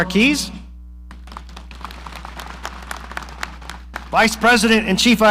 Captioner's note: audience applauding